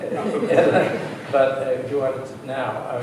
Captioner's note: laughter